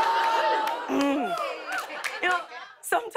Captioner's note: clears throat